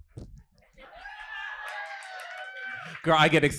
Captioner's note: audience cheering